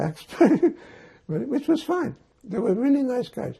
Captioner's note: laughing